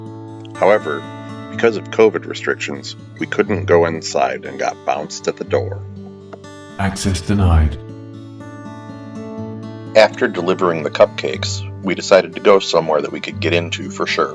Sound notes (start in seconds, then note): 6.0 computerized voice - "Access denied"